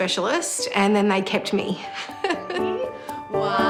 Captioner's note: laughs